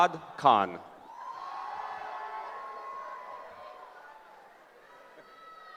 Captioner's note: cheering